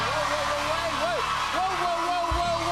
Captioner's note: cheers and applause